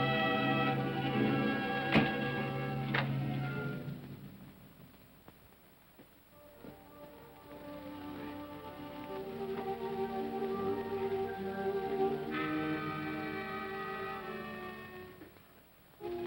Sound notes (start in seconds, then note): 0.0 ominous music; 1.0 door closes; 6.7 ominous music; 16.0 tense ominous music